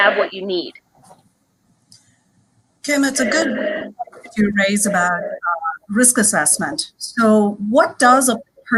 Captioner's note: connection cuts out